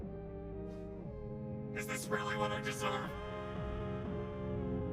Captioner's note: voice echoing